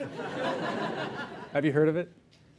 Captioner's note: laughter